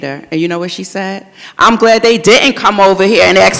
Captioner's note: in a loud voice. audience laughs